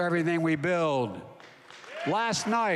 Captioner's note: applause